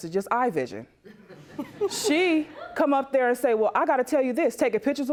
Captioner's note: audience snickers